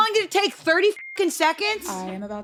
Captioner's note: beep